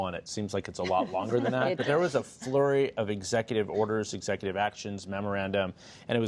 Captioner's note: laughter